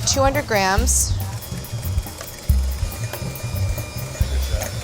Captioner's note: whirring